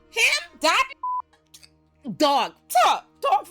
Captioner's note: beep